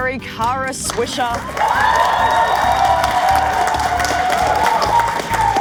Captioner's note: audience cheering